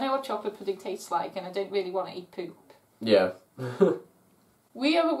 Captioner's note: chuckles